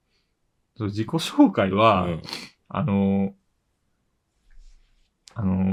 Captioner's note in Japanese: 鼻息